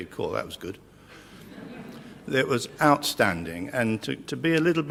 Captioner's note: laugh